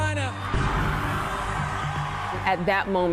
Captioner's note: crowd cheering